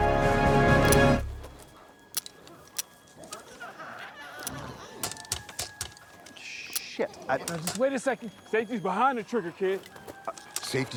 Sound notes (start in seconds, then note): 2.0 rocket launcher clicking; 4.4 glowzies growling